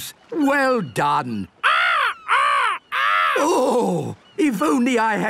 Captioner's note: seagulls cries